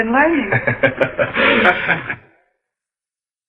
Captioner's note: laughter